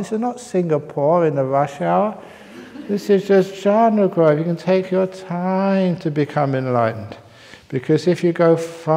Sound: laughter

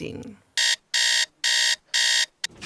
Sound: alarm clock goes off

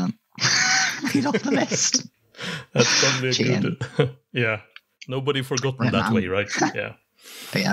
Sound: laughs

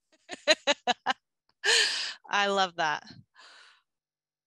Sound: laugh

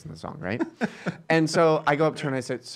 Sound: laughing

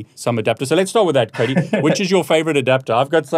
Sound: laughing

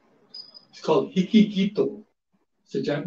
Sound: speaks foreign language

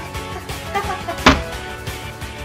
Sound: awkward laughing

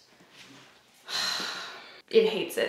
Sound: sighs

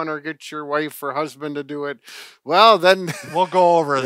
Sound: laughs

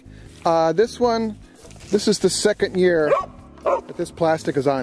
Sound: dog barks

